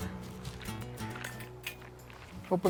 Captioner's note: stone and metal scraping